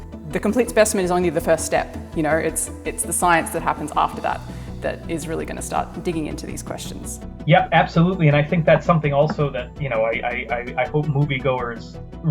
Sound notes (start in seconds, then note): none